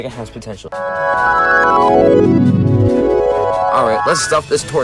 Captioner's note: un-flashback noises